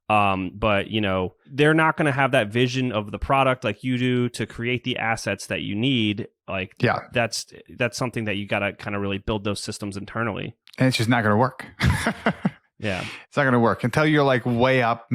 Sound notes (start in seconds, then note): 11.7 laughs